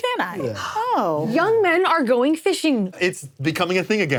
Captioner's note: gasps